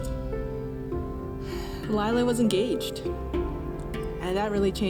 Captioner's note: sighs